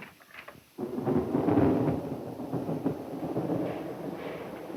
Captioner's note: thunder cracking